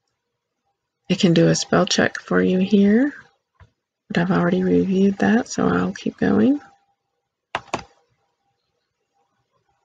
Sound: click

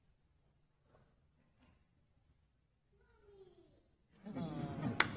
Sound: applause

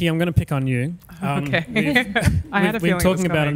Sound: laughs

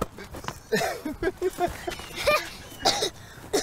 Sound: Issac laughing; Sean coughing

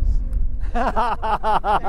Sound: laughs loudly

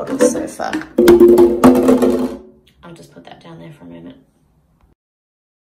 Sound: bottle clatters loudly into sink

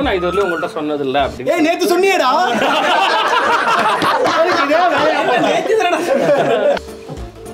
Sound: laughs

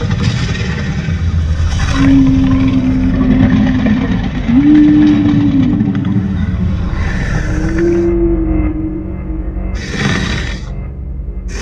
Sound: low rumbling growls from Indominus Rex

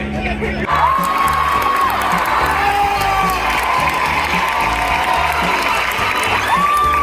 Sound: applause

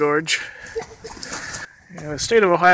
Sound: laughs

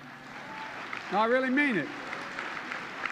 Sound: applause

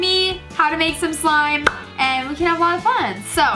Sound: claps hands

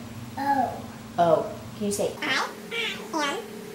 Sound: audio sped up

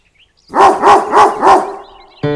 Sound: dog’s bark

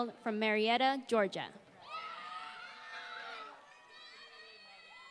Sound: applause

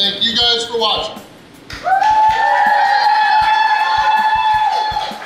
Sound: crowd cheers

